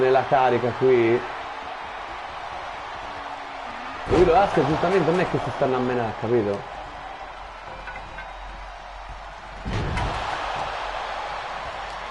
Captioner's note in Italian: Applauso